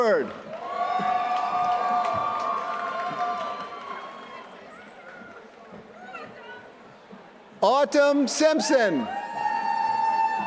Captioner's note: applause